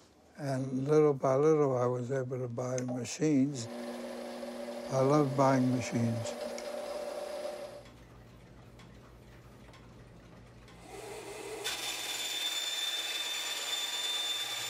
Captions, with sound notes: And little by little, I was able to buy machines. I love buying machines. [saw buzzing]